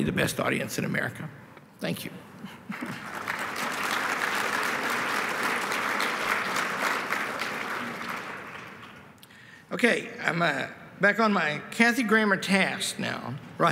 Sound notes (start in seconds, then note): 2.6 applause